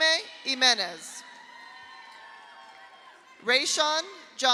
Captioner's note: audience applauds; audience cheers